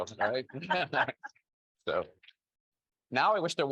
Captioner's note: panelists laughing